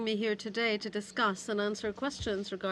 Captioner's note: speaking in french